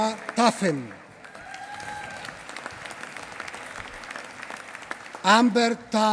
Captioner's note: applause